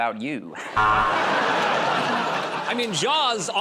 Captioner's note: buzzer